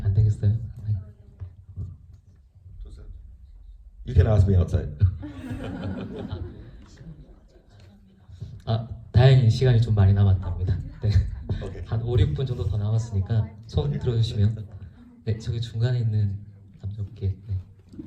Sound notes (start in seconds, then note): 0.2 speaks in foreign language; 5.3 laughs; 9.3 speaks in foreign language